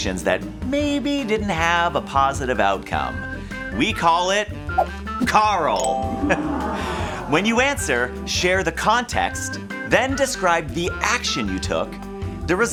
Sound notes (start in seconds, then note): 6.0 crowd oohing